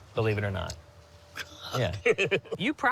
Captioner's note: laughs